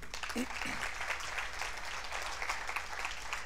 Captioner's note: applause